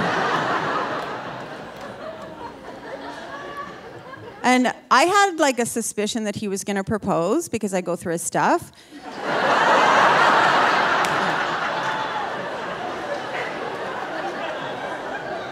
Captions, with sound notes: (audience laughing) And I had, like, a suspicion that he was gonna propose because I go through his stuff. (audience laughing)